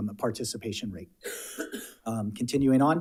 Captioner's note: coughs